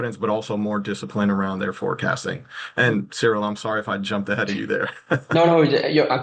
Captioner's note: chuckles